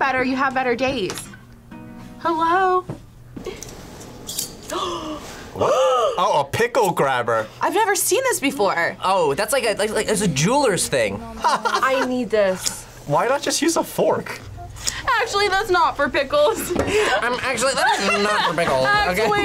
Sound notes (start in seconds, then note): 4.7 gasps; 11.3 laughs